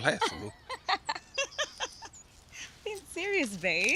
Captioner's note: Edith laughs